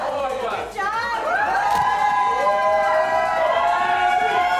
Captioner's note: friends cheer